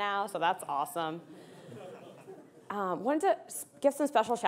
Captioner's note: audience laughing